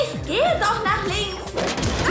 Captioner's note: thud